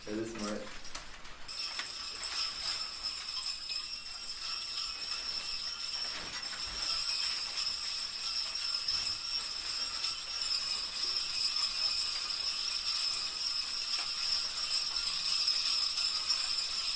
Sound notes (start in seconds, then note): 1.1 bells ringing